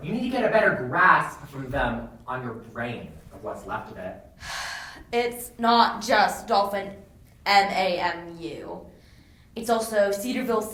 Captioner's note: sighs